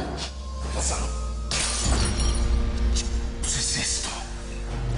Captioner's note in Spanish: Estruendo